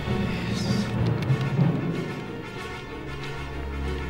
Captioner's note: keyboard clacking